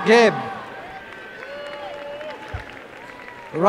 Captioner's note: applause